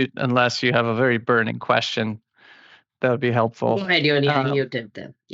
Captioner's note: non-english speech